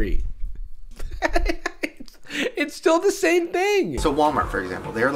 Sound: laughing; laughs

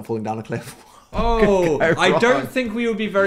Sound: laughs

